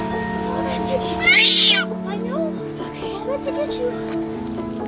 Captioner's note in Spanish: Aullidos